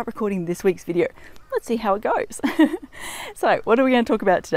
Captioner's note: laughs